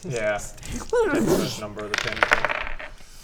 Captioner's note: wrrroossch